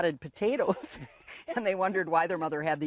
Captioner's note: laughing